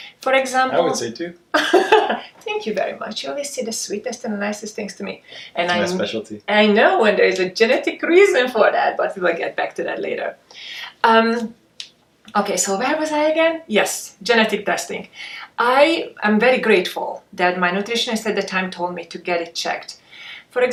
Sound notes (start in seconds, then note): 1.6 laughs